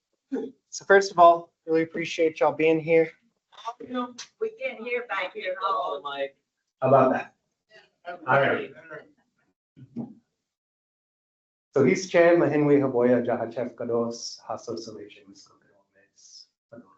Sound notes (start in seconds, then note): 11.7 speaking foreign language